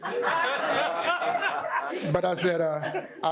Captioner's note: audience laughing